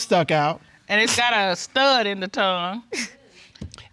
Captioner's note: chuckles